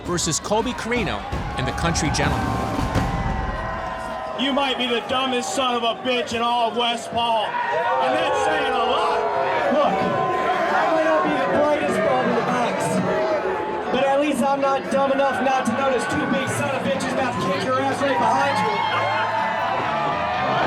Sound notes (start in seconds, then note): 9.6 crowd booing; 19.4 crowd cheering